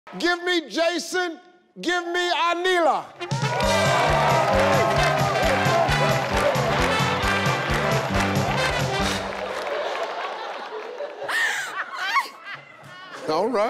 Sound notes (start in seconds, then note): 3.2 upbeat music; 3.2 audience applauding and cheering; 12.1 laughing